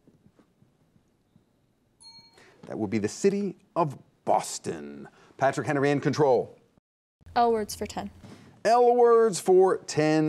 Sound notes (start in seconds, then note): 2.0 timer dings